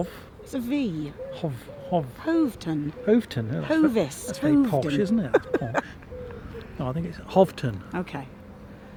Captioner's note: does posh accent